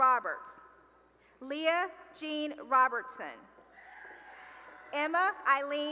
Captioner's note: cheering